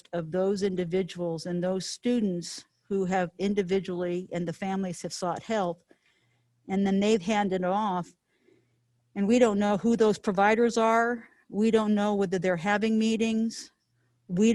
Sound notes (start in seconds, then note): none